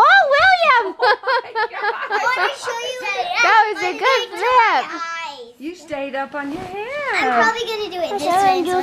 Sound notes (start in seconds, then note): 0.8 laughing